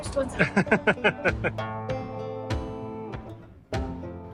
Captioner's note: laughing